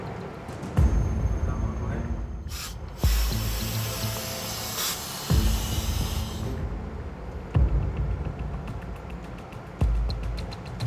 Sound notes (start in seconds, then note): 0.7 dramatic music; 2.4 hissing air